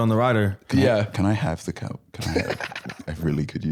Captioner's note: cackling